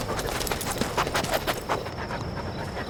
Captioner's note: dog sniffing